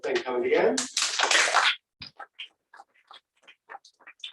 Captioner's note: applause